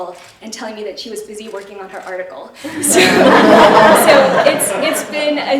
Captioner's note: laughter